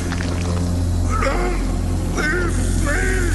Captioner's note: съскане